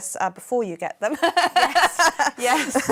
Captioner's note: laughing